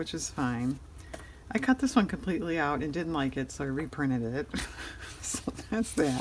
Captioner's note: laughs